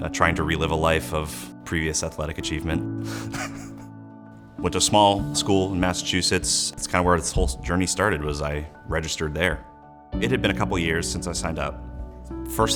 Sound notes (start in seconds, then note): 3.0 snickers